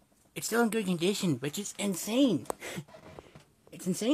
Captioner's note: chuckles